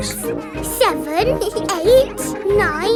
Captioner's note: both giggle